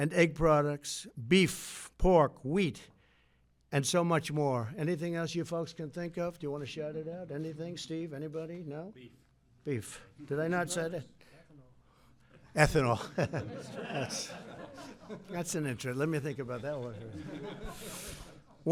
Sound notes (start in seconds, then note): 12.8 laughs; 16.6 laughter